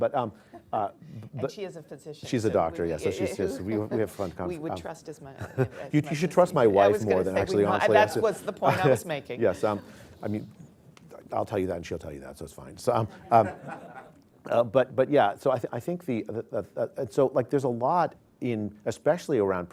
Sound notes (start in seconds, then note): 10.0 laughs; 13.1 laughter